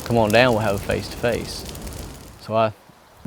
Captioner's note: fire crackling